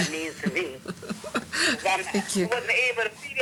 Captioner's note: chuckling